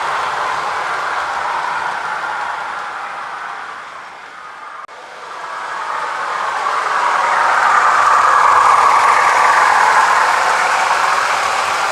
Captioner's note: applause